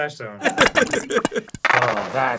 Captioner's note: bottle farts